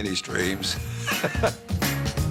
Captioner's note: laughs